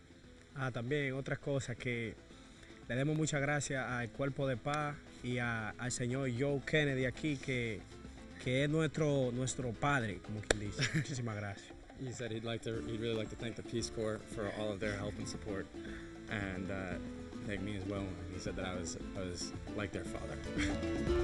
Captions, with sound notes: (Guides speak in Spanish) He said he’d really like to thank the Peace Corps for all their help and support. And he thanked me as well and he said that I was like their father.